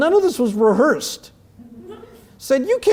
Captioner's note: laugh